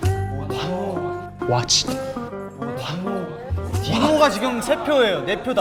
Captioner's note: unfair, angry